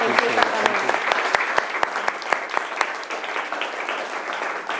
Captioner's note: attendees applauding